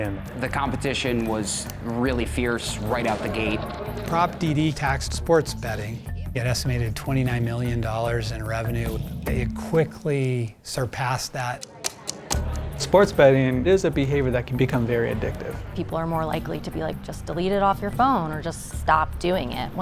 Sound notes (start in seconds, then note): 11.6 ticking